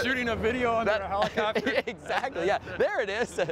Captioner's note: laughing